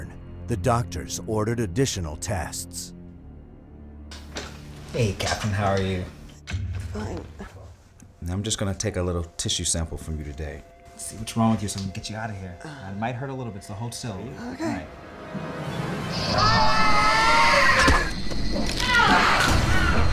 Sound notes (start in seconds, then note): 16.1 screams